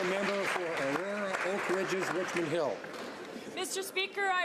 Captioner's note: some Applause